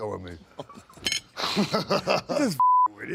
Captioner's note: DDP laughs